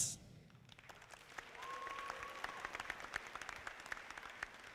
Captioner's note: audience applauding